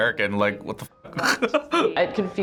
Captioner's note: laughs